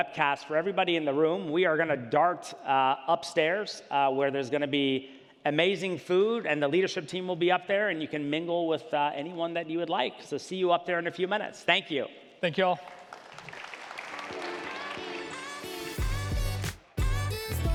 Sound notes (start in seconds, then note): 12.8 audience applauds; 14.3 gentle upbeat music